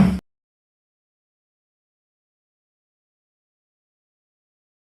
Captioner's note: gavel bangs